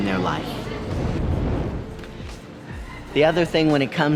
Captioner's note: transition screen whooshing